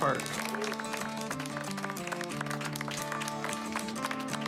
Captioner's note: clapping